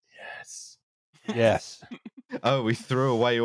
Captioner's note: whispers; loud whisper